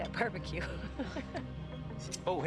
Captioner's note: laughing